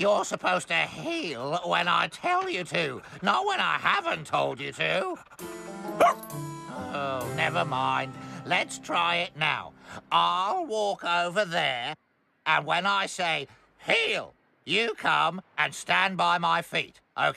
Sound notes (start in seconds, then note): 6.6 sighs